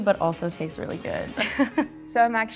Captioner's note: laughs